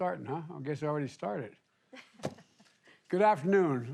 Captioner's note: laughter